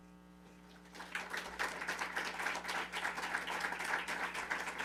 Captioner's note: attendees applauding